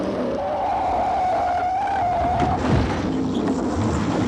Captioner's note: tires screeching; car engines revving